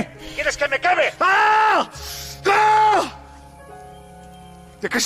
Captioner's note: yelling